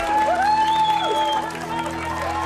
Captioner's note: crowd cheering